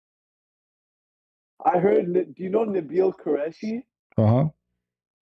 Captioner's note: ketawa